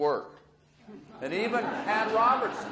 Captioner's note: audience laughs